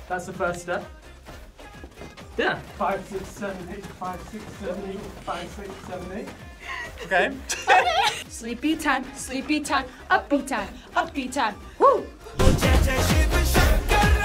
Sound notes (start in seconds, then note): 6.6 both laugh; 12.5 upbeat music